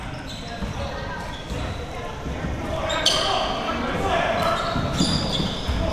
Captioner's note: audience chattering and yelling